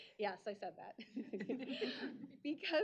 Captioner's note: chuckling